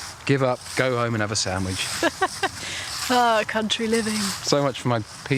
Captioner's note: laughs